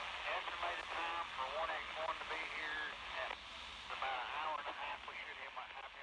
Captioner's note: radio chatter